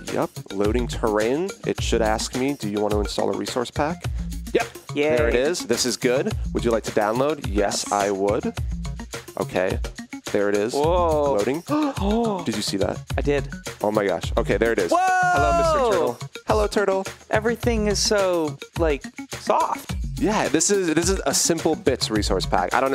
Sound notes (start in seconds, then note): 11.7 gasps